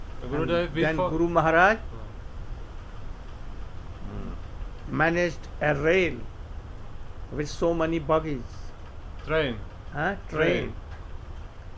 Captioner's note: train